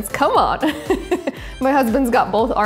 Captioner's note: laughs